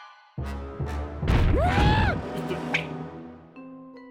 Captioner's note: screams